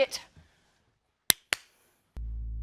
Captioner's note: claps